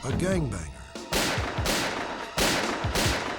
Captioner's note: gunshots